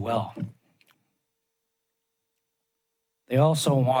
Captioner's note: pause